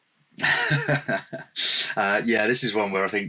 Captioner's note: chuckles